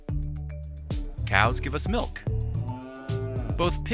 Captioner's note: cow mooing